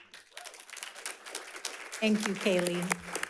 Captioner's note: audience applauds